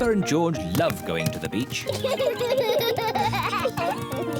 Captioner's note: both laugh